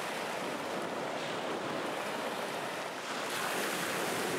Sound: waves crashing

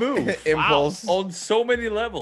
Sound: laugh

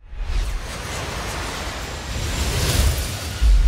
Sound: plane whooshing

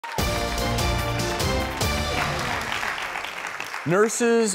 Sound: applause; upbeat introductory music

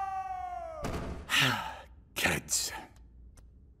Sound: thud; sighs

